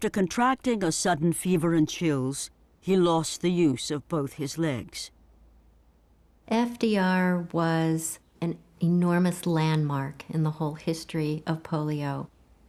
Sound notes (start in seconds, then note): none